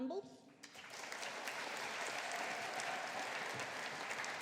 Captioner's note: audience applauding